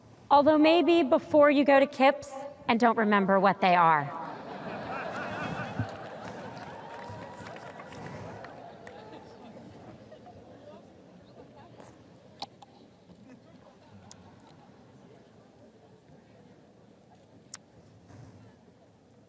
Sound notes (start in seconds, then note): 7.0 audience laughs